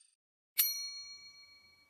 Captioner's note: bell chime